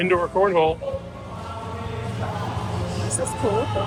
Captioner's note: guests chattering